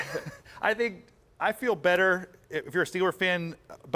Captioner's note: laughter